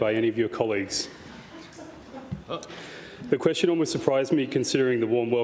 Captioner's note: chuckles